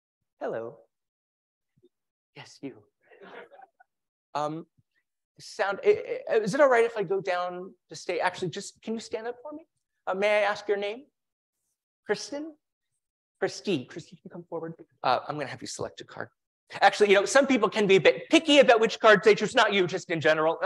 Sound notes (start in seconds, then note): 3.1 laugh